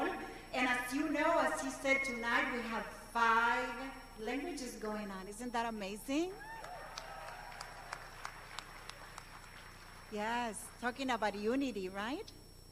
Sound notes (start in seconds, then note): 1.5 speaking non-english language